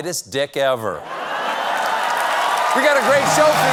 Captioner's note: laughter